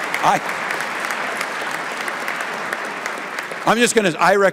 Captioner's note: applause